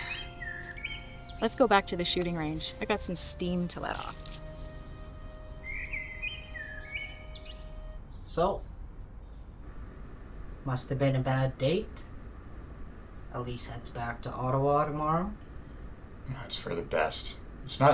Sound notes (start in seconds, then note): 5.3 birds chirping; 5.3 gentle music